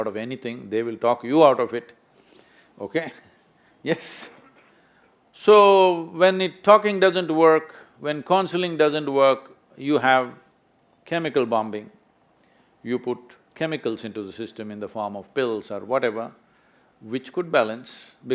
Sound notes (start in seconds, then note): 4.2 laughs